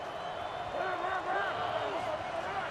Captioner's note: crowd cheering